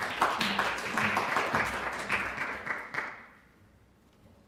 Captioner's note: applause